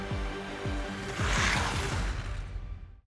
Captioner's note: ice scrapes